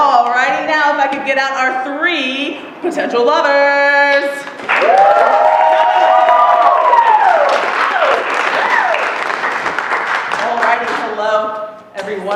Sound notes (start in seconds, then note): 4.6 applause; 4.6 cheering